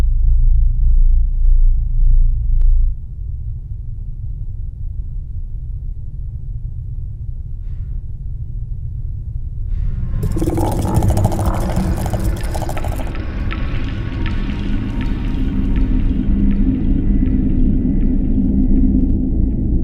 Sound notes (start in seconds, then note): 10.2 eerie scuttling; 12.2 sinister music plays